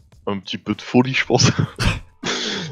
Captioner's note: laughs